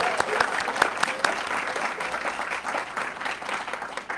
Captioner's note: audience clapping